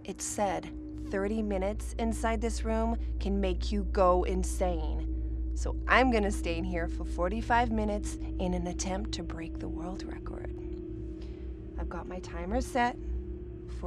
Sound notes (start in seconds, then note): none